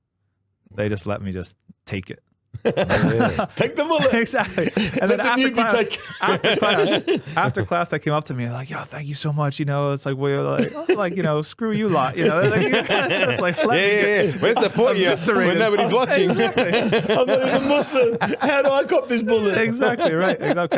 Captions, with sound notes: They just let me just take it. Take the bullet. Exactly. And then after class, after class, after class, they came up to me like, "Yo, thank you so much, you know, it's like, "well, you're like, you know, screw you lot." You know, they're like, "Yeah, yeah, yeah, yeah." Where's the point of you, Serena? Whenever he's watching. (laughing) I'm like, "I'm Muslim, how do I cop this bullet?" Exactly right, I love